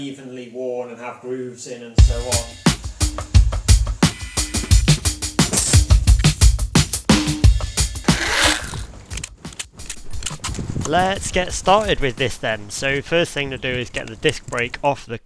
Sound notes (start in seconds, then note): 2.0 intro Music; 8.0 impact wrench noises